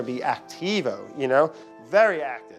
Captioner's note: speaking foreign language